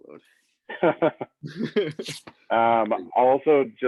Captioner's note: laughing